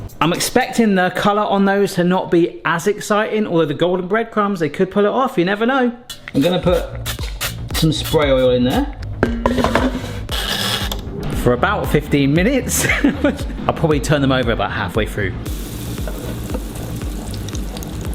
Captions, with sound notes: I'm expecting the colour on those to not be as exciting. Although the golden breadcrumbs, they could pull it off. You never know. I'm gonna put some spray oil in there. (pan clanging) (knob creaking) For about 15 minutes (chuckles) I'll probably turn them over about halfway through. (oil sizzling)